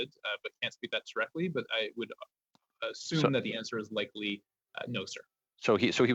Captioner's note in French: voix de l'interprète